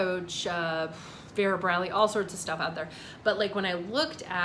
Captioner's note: exhales